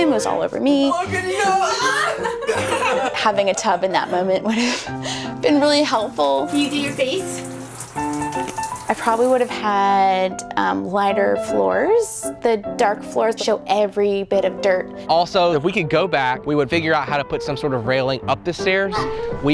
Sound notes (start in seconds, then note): 0.9 yelling; 1.1 laughing